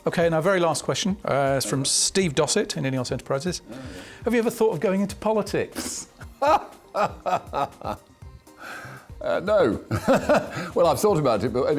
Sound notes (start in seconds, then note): 6.0 laughs; 9.8 laughs